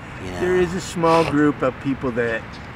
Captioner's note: sniffs